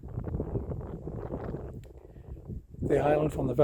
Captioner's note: wind gusts